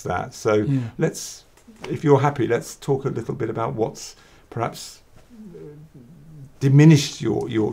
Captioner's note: hesitates